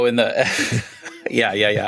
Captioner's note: laughter